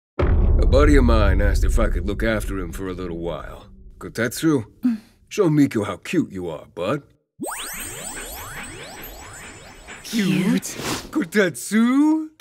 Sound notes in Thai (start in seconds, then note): 9.8 แฮ่ก